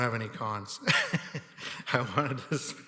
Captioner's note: laughing